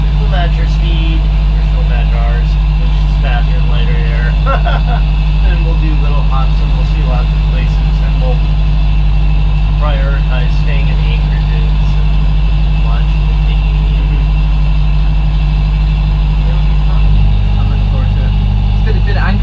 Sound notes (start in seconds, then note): 4.3 laughter